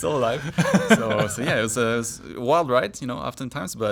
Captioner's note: laughs